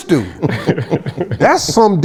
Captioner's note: chuckles